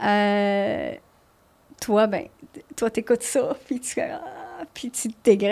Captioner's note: in french